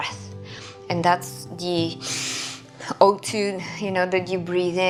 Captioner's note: inhaling